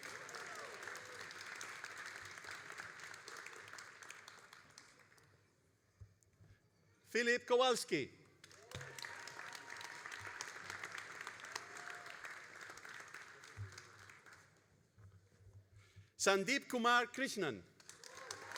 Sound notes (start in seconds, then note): 0.0 all applauding; 8.4 all applauding